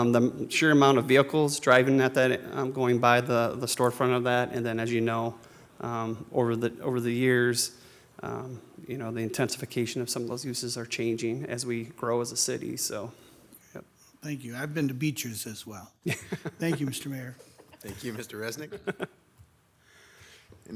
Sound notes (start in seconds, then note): 16.0 laughing; 18.5 members chuckling